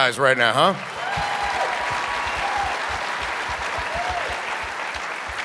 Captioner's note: audience applauding